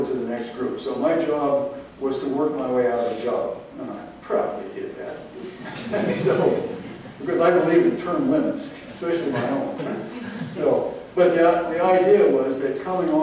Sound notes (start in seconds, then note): 5.6 laughter